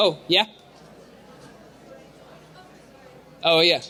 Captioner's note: crowd chattering